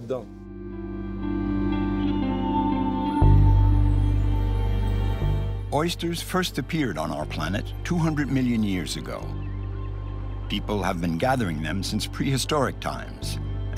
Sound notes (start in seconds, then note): 0.1 gentle music; 10.0 birds chirping